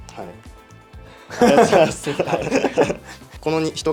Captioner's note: laughs